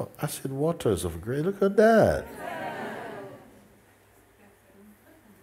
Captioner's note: laughter